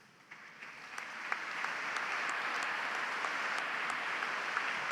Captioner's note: audience applauds